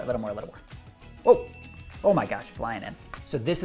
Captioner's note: bell dinging